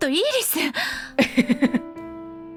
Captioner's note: chuckles